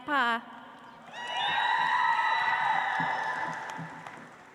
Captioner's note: audience applauds